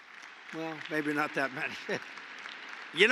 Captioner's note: applause; laughs